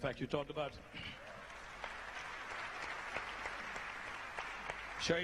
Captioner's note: applause